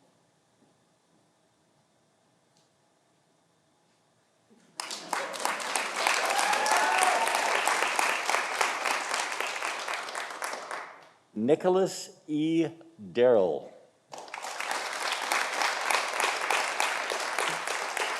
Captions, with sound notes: Nicholas E. Darrell. (audience applauding)